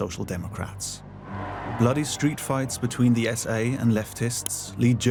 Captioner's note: screaming and shouting